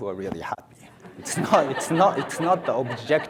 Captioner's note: audience laughs